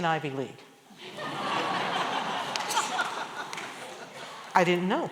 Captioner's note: laughter